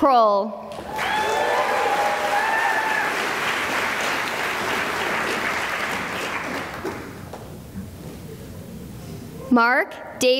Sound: cheering and applause

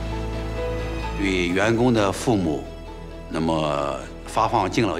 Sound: speaking Chinese

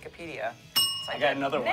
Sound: bell dings

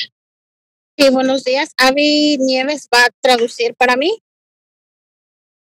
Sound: speaking foreign language

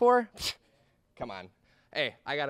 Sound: scoffs

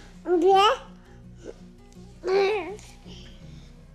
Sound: cooing

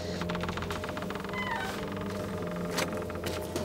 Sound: door creak

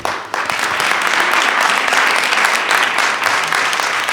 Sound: attendees clapping

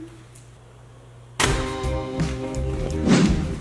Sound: loud bang; upbeat music

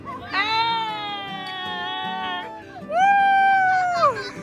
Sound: cheering; laughter

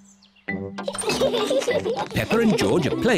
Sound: all giggle

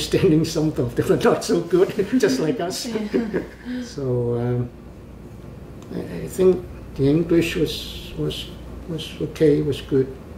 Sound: laughs

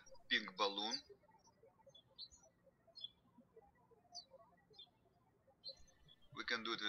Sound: birds chirping

